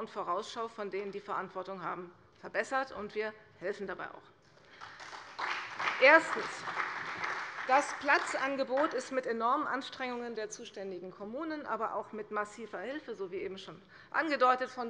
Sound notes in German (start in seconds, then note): 4.6 Beifall bei der CDU und dem BÜNDNIS 90/DIE GRÜNEN